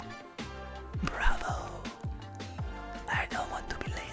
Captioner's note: whispers